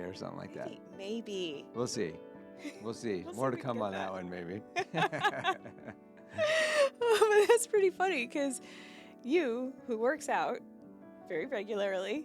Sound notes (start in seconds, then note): 4.8 laughing